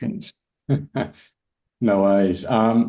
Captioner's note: laughs